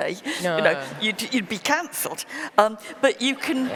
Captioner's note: laughter; laughter